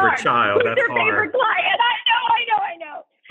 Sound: laughter

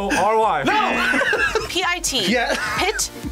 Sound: buzzer

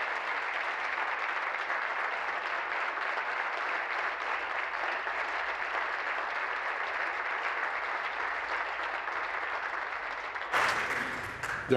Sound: applause

